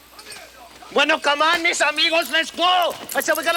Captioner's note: Ignacio speaks Spanish; Bruto yells in Spanish